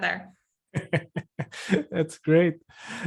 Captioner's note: laughing